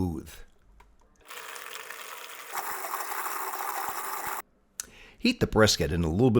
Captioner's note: blender whirring